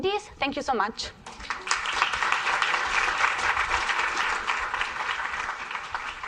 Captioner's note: applause